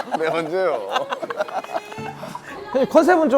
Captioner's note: laughing